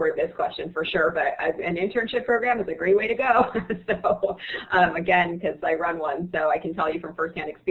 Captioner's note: laughs